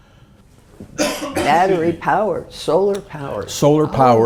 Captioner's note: cough